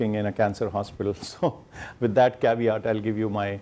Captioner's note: chuckles